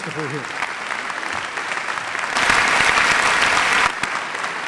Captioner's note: applause